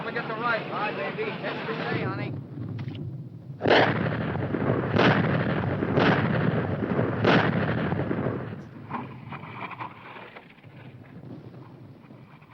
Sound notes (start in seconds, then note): 3.8 machines blowing